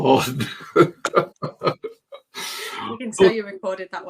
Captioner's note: laughs